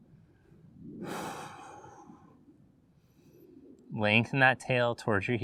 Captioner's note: exhales loudly